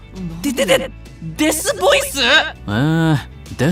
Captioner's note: D-D-D-Death growl…!?